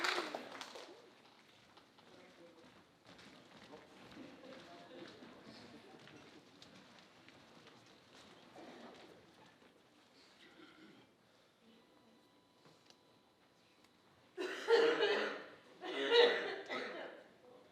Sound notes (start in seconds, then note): 3.4 footsteps shuffling; 15.8 Earth coughing